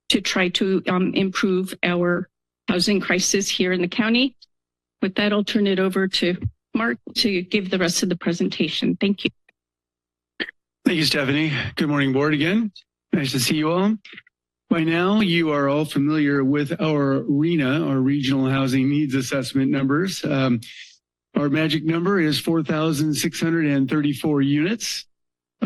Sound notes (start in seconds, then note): 9.8 silence